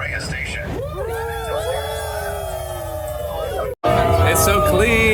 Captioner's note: cheering